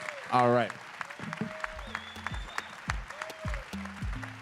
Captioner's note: applause